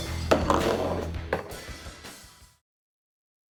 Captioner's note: glass clanks